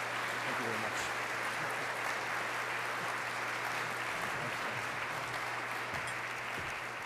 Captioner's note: applause